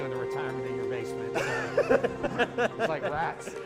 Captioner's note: laughs